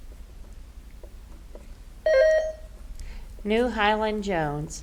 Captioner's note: button buzzing